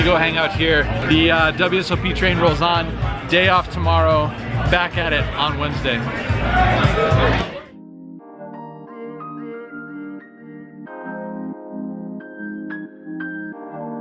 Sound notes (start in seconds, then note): 6.8 crowd chattering; 8.2 mellow music